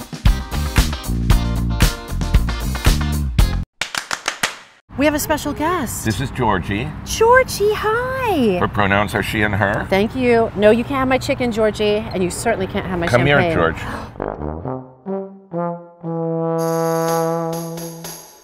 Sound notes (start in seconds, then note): 0.0 disco music; 3.8 claps